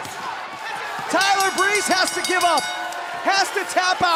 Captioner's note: bell ringing